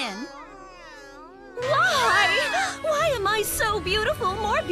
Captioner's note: kids groaning; dramatically